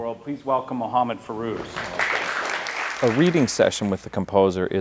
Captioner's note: applause